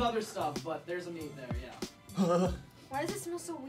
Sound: groaning

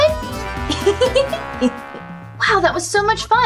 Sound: Gekko Giggling

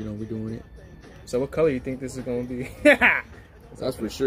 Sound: laughs

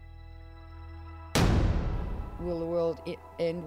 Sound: bombs booming

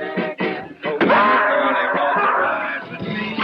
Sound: screams

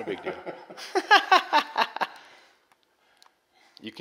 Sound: laughter

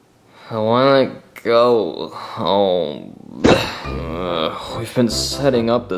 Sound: body thuds

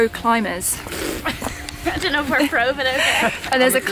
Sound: laughing

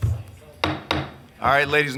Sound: gavel banging on desk

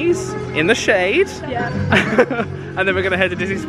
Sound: chuckling

